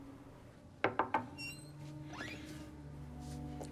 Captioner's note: knock